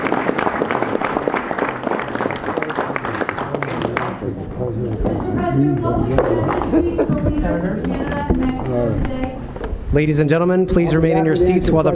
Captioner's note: applause